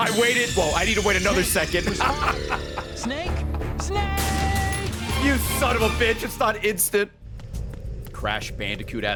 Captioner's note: laughs